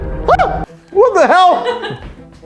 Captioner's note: screams